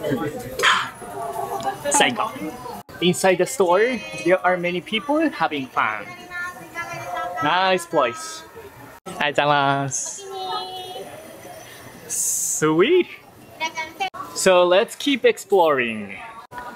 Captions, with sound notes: Ahh! Inside the store, there are many people having fun. Nice place. [SPEAKING IN JAPANESE] Sweet! So, let's keep exploring!